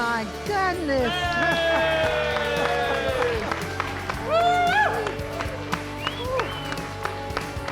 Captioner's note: crowd clapping